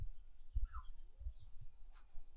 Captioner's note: birds whistling